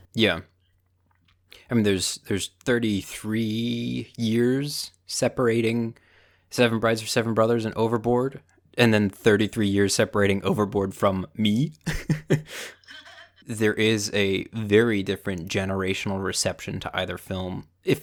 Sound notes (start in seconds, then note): 11.8 Mom laughs; 11.8 laughs